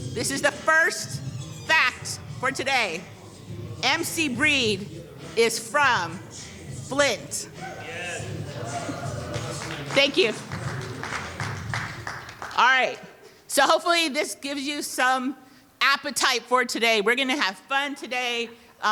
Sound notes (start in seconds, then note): 9.3 audience cheering and clapping